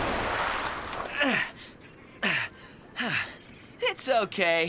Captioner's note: Cody Grunting